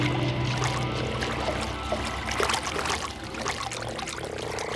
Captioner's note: water splashing